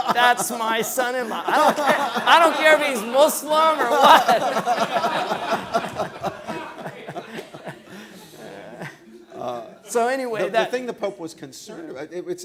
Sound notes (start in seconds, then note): 4.7 laughing